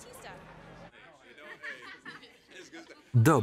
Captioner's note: people talking together